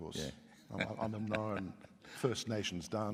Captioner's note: laughs